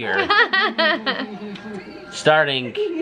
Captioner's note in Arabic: يضحك